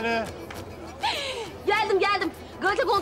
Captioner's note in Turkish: Gülüyor